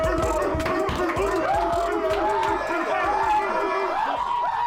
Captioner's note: team roaring; team screaming; team yelling